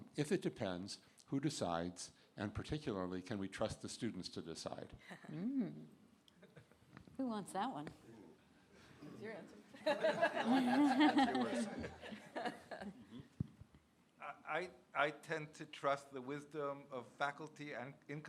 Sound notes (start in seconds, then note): 9.8 laughter